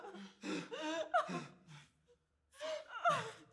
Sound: Zara sobbing

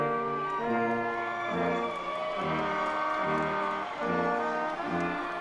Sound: audience cheers

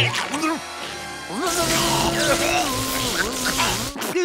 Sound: hacking

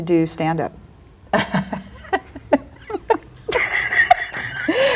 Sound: laughs

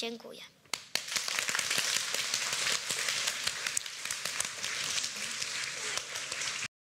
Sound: applause

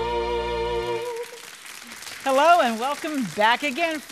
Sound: audience applauds

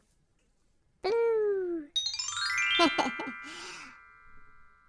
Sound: magic chime sound

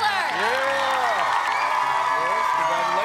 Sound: cheering

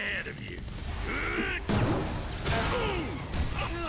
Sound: grunting

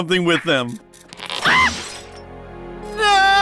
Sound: scream

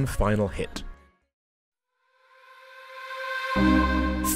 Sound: voiceover

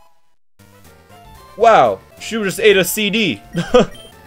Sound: laughs

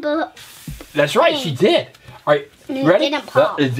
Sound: voiceover

